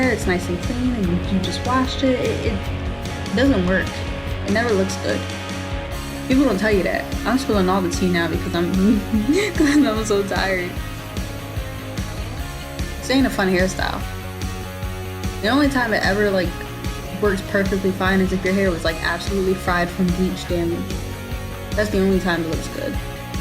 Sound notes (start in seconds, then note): 8.8 mutters/laughs